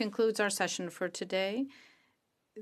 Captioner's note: speaking in French